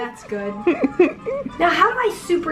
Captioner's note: chuckling